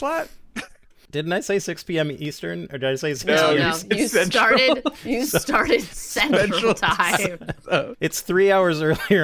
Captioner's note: laughter